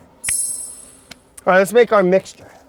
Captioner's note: chimes twinkling